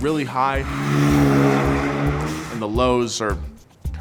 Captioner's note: engine roars